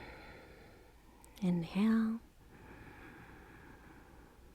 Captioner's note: inhaling; exhaling